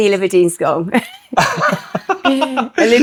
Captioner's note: laughing